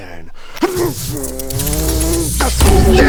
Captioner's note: hrggngrrrrrrr